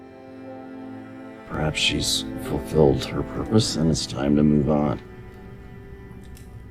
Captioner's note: voiceover